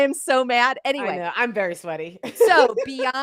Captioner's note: laughs